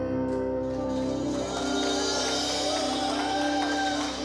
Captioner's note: cheering, applause